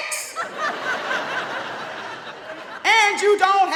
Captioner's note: audience laughing